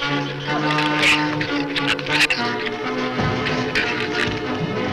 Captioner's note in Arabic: زئير الزبابة